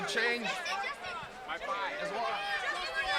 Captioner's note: crowd chatter